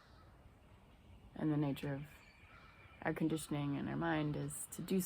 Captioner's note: birds sounding